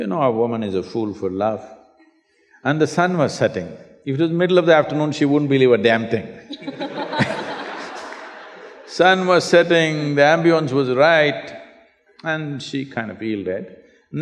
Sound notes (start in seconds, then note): 6.4 laughter